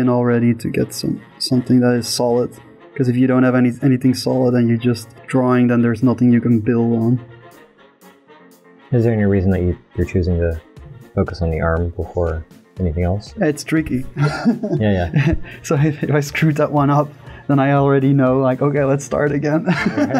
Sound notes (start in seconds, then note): 14.1 chuckles; 19.6 laughter